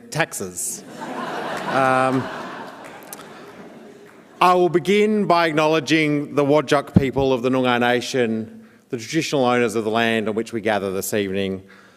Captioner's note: laughter